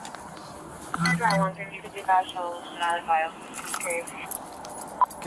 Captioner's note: radio chatter